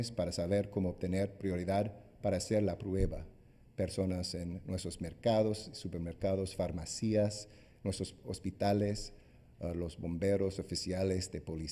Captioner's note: speaking spanish